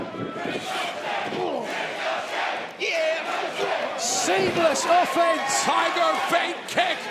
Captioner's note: fans chanting